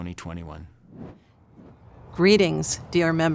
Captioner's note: air whooshing